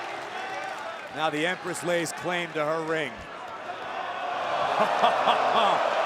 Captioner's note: laughs